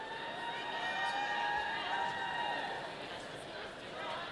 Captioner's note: audience cheers